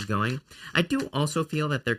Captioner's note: shuffling cards